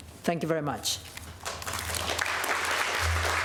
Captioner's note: applause